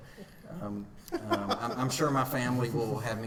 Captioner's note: laughing